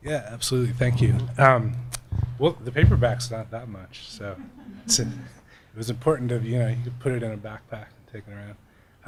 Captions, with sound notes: - Yeah, absolutely, thank you. The paperbacks thank that much so (laughing) it was important that you could put it in a backpack and take it around.